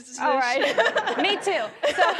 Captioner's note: laughing